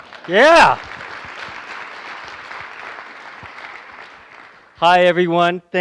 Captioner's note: applause